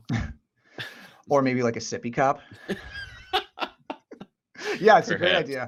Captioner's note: laughs